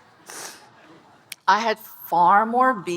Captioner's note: audience laughing